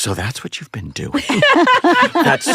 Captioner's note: laughter